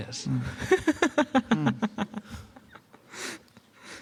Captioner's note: laughter